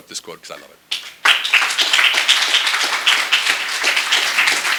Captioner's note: applause